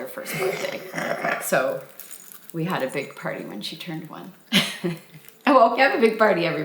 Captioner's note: laughs